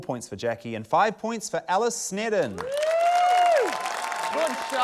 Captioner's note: cheering, applause